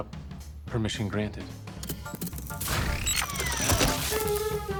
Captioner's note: mar17 whirs